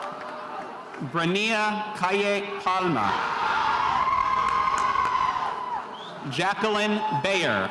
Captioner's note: spectators cheering